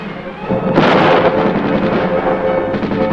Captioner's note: banging